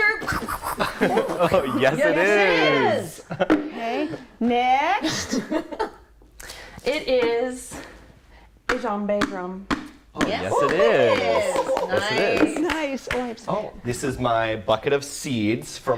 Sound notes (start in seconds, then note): 11.5 applause